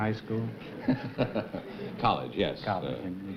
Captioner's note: laughs